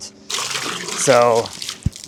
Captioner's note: water splashing